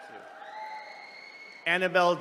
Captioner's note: attendees cheering